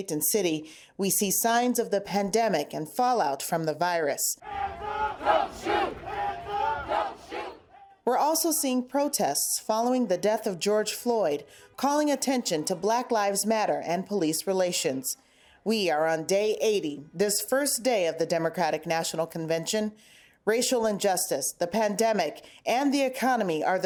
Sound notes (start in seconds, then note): 4.4 crowd